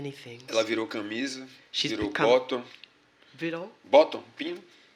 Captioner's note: speaking portuguese